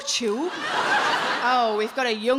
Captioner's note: audience laughing